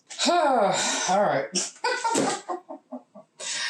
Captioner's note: pained laughter